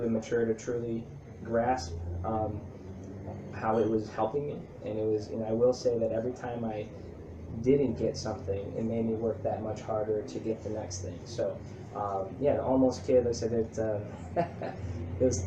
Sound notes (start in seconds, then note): 14.0 laughs